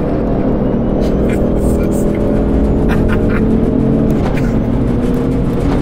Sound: under his breath, laughing nervously

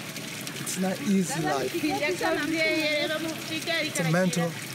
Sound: speaking in foreign language

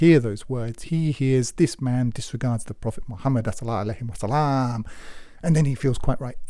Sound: speaks Arabic

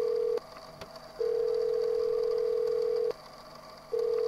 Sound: dial tone

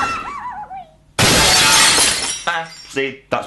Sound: screams; sound of crash

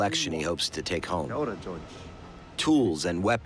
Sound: speaking Maori

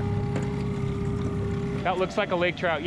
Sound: winch motor running

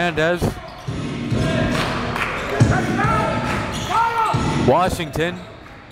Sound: crowd chants "Defense"

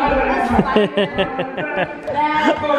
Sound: laughter

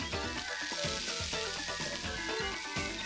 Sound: sizzling

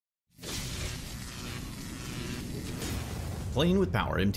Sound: electricity crackling

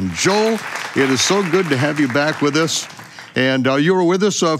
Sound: applause

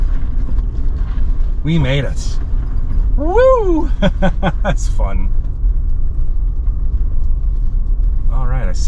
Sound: laughs

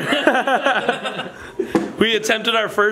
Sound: everyone laughs

